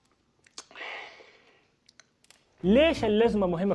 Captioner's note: smacking lips in satisfaction